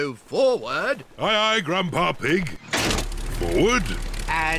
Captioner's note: lever clunks